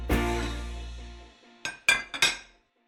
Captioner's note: dishes clatter